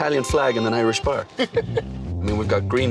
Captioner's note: laughing